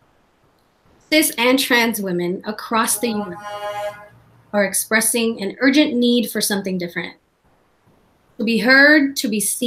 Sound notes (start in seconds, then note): 2.7 horn sounding